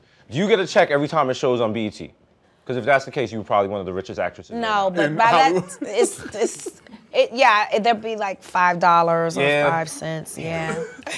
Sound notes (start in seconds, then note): 5.0 snickering